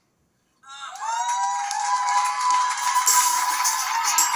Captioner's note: audience cheering; light music